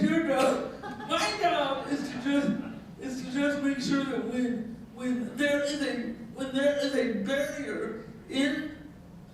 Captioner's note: laughing